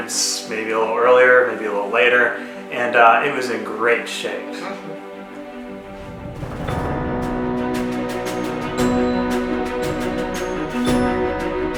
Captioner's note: chuckle in Disapproval